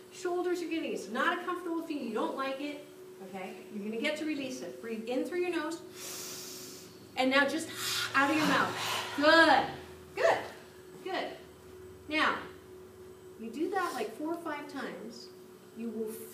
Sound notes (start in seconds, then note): 7.7 breathes in; 7.7 breathes out